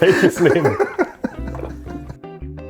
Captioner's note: laughter